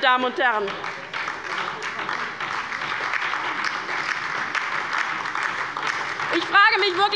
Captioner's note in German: Beifall bei der LINKEN und bei Abgeordneten der SPD